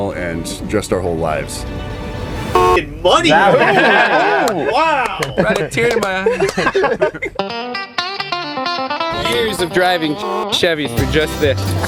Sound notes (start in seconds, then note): 0.0 inspirational music; 1.1 horn honks; 6.5 all laugh; 10.2 horn honks